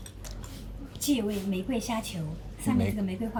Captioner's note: in Mandarin